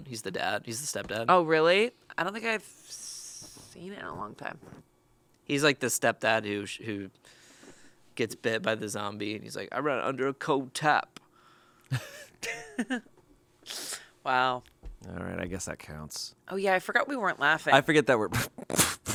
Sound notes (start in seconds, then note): 11.9 chuckles